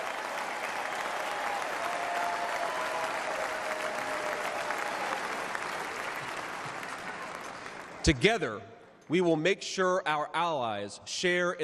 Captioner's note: cheers and applause